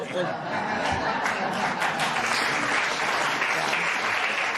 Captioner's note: laughter and applause